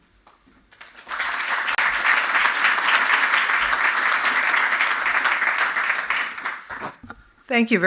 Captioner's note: applause